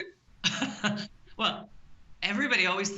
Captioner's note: laughing